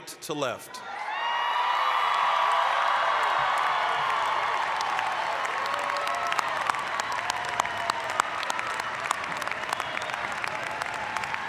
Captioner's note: applause, cheering